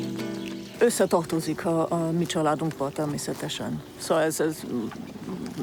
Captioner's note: speaking in foreign language